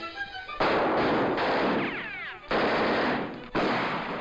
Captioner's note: guns firing